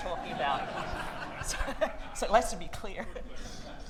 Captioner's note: audience laughing